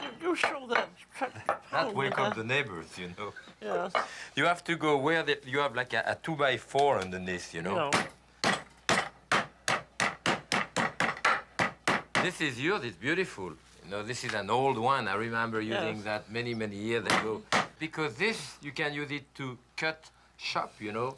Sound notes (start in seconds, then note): 8.4 hammering